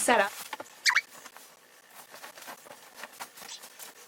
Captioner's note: sheets ruffling